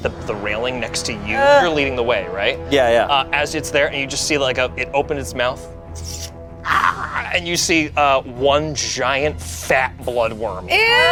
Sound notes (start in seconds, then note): 6.6 gargles